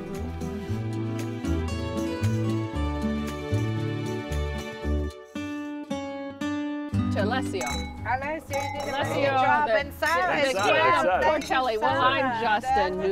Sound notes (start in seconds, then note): 1.4 light airy music; 7.4 wine glasses clink; 10.0 chattering